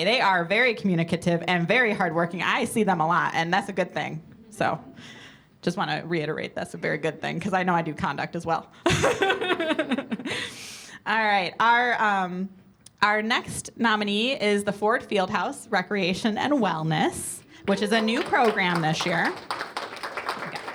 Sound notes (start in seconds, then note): 8.9 laughs